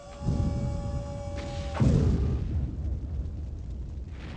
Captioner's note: quiet, distant explosions